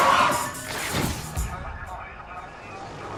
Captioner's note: sirens wailing; police chattering